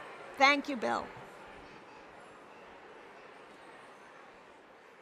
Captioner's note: attendees chattering